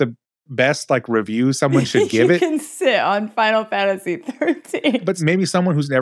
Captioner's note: laughs